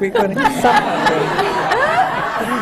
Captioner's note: laughter